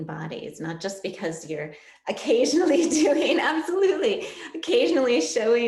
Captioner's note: laugh